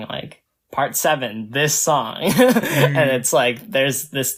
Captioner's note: laughs